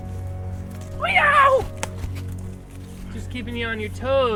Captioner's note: Farley screams